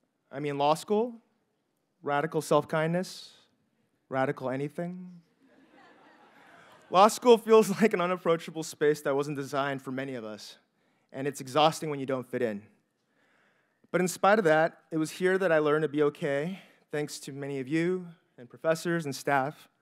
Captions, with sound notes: I mean, law school, radical self-kindness, radical anything. (audience members chuckle) Law school feels like an unapproachable space that wasn't designed for many of us, and it's exhausting when you don't fit in. But in spite of that, it was here that I learned to be okay, thanks to many of you and professors and staff,